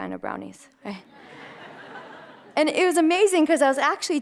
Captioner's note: audience laughter